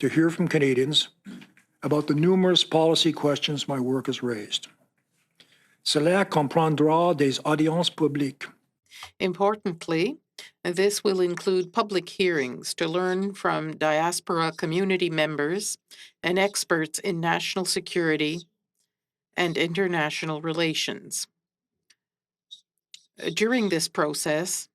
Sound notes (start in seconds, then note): 10.7 speaking French